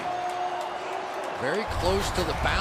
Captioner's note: pa announcement